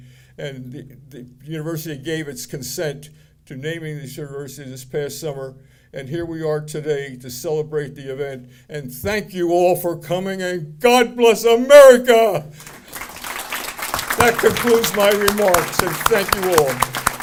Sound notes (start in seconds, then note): 12.6 audience applauding